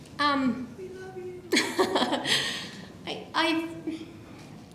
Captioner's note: laughs